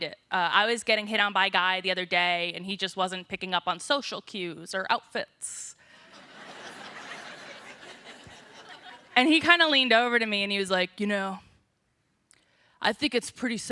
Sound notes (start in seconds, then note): 6.0 laughter